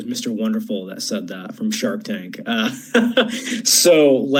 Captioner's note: chuckles